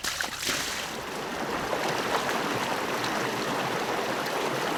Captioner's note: rushing water